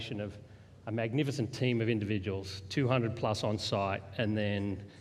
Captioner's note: none